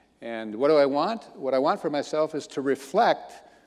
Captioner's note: none